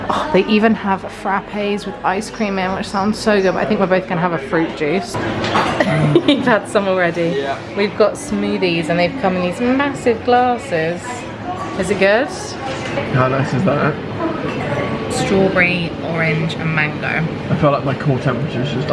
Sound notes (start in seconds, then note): 5.6 chuckles